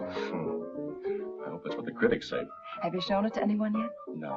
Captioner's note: laughs